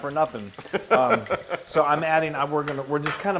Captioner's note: laugh